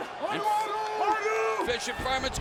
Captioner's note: wrestlers speaks in foreign language